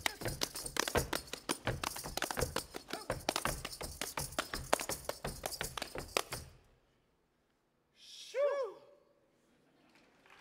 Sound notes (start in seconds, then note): 0.0 feet stomping and hands clapping